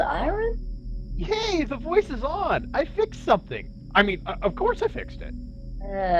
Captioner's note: boyish glee